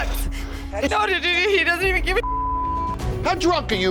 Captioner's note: beep